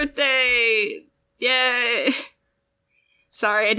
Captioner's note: laugh